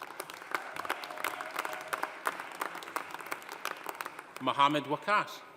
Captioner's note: audience applauding; audience cheering